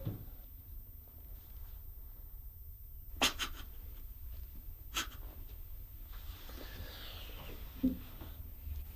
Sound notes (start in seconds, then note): 3.0 stifled crying